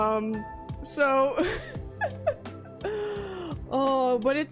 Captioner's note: laughs